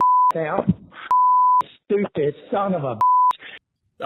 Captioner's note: beep